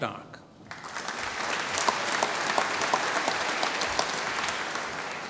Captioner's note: applause